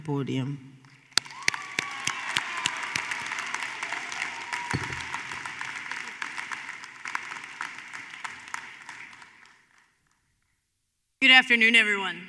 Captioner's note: applause